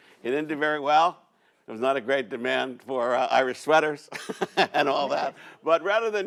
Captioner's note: laughs